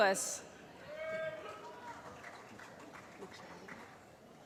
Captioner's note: applause